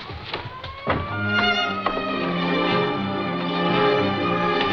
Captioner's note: sirens blaring